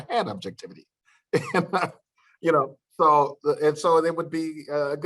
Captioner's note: laughter